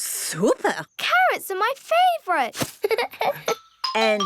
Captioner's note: giggles